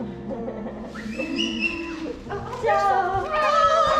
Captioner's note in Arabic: يضحك